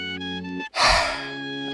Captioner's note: sigh